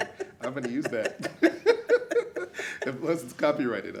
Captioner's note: laughs